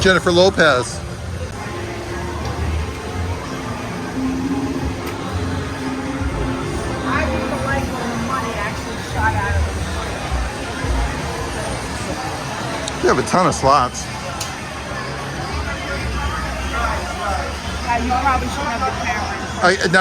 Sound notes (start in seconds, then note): 2.1 people chattering; 4.2 gentle music; 14.6 people chattering